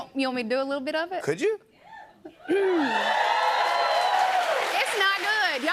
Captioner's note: cheers and applause